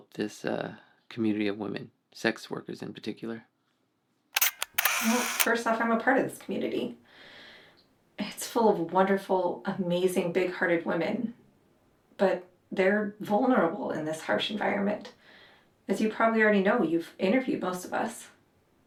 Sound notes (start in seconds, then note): 4.3 camera shutter clicks